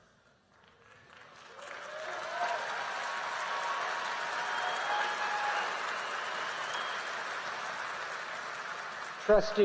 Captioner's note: applause